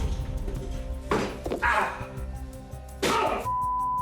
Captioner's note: Johnny groaning